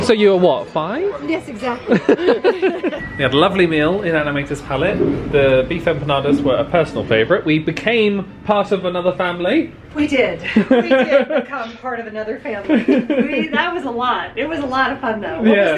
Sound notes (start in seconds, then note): 1.8 both laughing; 12.7 laughing